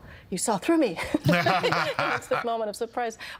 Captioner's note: laughing